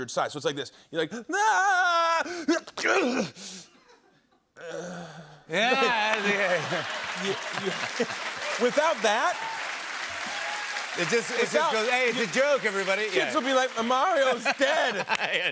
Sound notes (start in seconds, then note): 6.6 applause; 9.4 cheers and applause